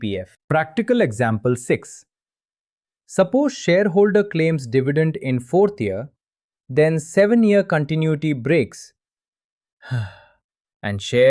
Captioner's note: sighs